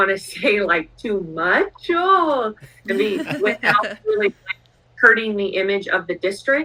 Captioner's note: laughter